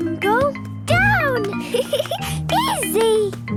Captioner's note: giggling